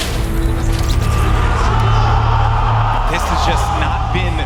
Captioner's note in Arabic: تعجب الجمهور